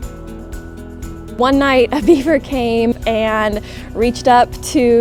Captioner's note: laughs